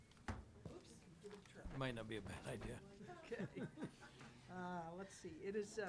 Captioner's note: chuckles